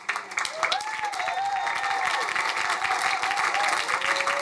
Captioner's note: crowd cheering